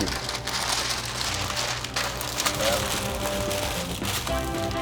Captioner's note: paper crinkling